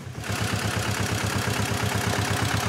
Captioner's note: louder whirring